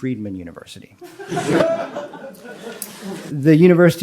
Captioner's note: audience laughs